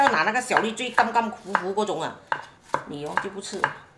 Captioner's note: Cantonese